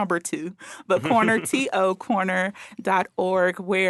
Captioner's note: laughing